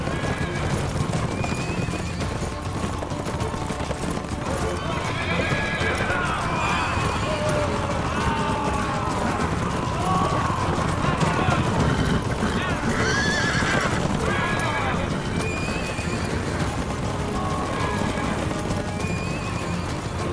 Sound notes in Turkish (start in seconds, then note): 0.2 Gerilim müziği; 12.5 At kişniyor